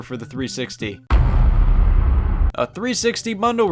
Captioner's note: heavy thud